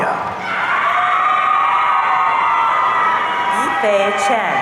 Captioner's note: audience cheering